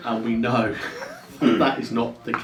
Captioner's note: laughs